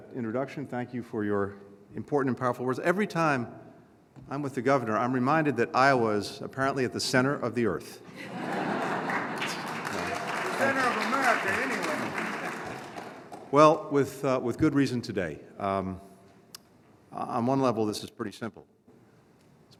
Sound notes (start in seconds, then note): 8.1 laughter and applause; 13.0 laughter